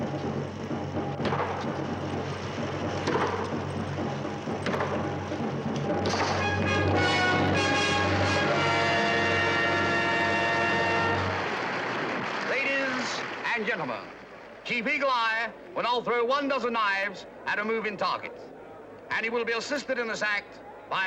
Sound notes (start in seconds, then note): 8.2 audience applauds